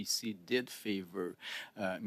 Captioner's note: speaking French